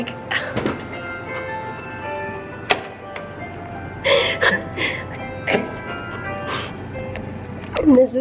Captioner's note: crying